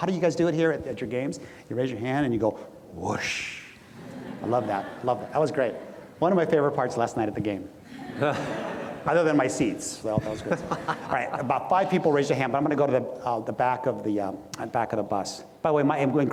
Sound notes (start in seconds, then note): 3.8 audience laughs; 7.8 audience laughs; 10.2 laughs